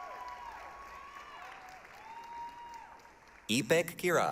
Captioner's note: applause, cheering